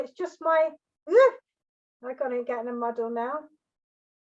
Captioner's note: exclamation